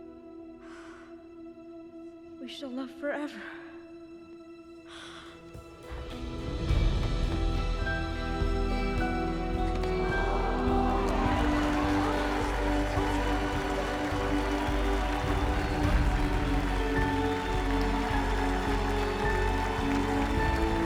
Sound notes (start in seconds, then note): 0.5 quietly; 3.0 gasps; 9.1 crowd applauding